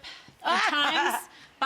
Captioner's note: laughing